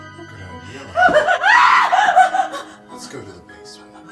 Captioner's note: Ronnie screams